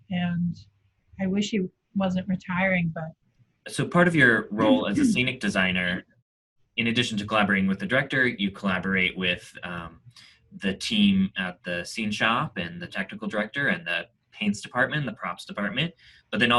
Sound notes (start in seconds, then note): 3.6 clears throat